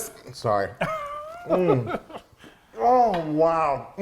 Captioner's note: laughing